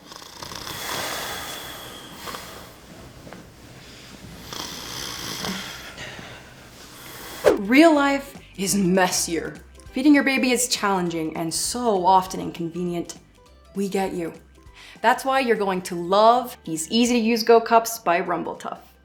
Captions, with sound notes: [rustling] [more rustling] Real life is messier. Feeding your baby is challenging and so often inconvenient. We get you. That’s why you’re going to love... these easy-to-use GO CUPS by Rumble Tuff.